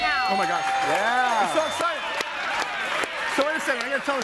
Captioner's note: audience applauds and cheers